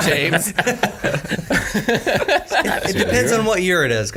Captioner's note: all laughing